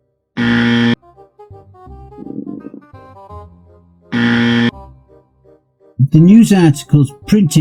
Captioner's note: stomach Growls!!